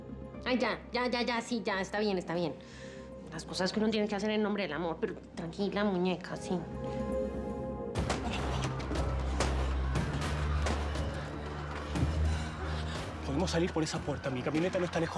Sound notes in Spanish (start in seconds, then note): 8.1 siguen los disparos; 8.1 griterío